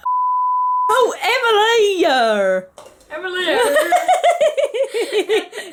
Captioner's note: both laugh